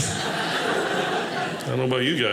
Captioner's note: audience laughing